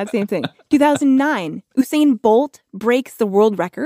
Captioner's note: laughs